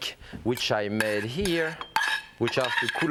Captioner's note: spoon clinking